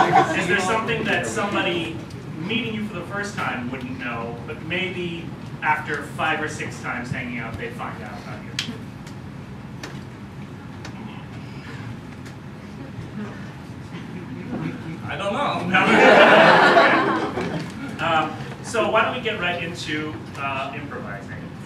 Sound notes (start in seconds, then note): 15.8 laughter